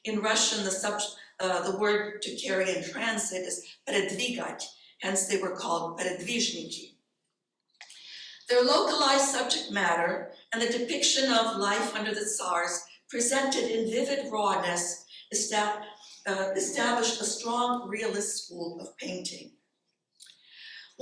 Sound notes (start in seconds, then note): 3.8 speaking in foreign language